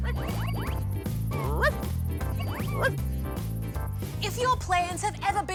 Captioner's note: dog barks